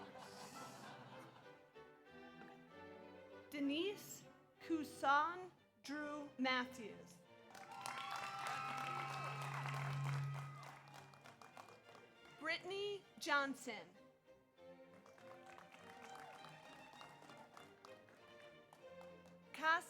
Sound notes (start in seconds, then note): 0.0 audience laughs; 7.4 audience applauds; 7.6 audience cheers; 14.9 audience applauds; 15.4 audience cheers